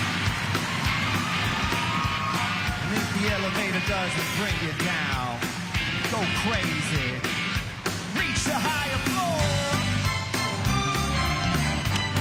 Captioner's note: crowd cheering